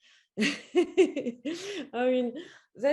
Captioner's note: laughing